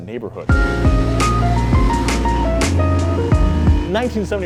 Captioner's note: classic jazz music; car accelerating